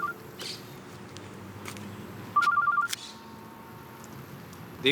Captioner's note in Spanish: Suena el celular